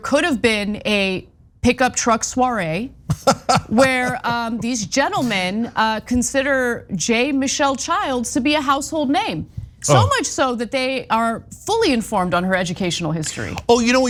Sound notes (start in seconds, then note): 3.0 laugh